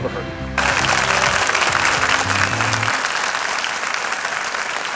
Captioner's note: audience applauds